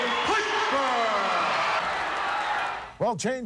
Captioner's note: audience cheering